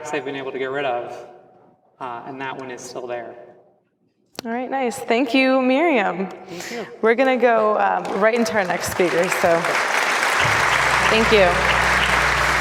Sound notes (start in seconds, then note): 9.8 applause